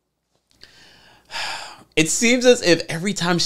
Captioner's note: breathes sharply